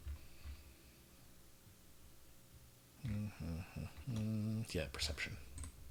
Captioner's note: humming